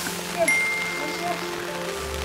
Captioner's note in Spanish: Ding